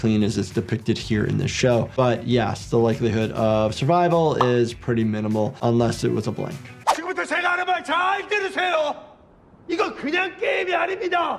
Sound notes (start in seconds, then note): 6.8 Player 456 speaking in Korean